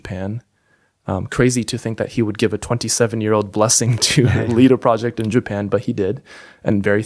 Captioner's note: chuckles